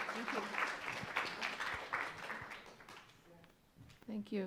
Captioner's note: audience applauds